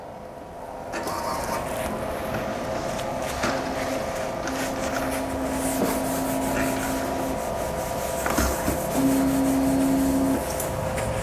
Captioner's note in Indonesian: suara mesin printer